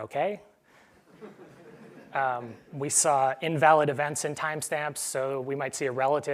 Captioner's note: laugh